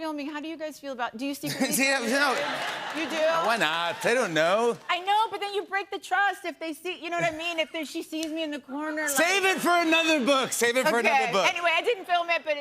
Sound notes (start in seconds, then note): 2.1 audience shouts "yes"